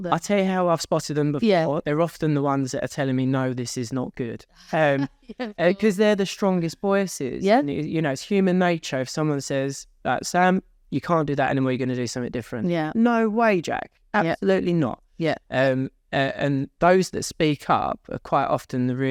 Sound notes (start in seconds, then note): 4.7 laughs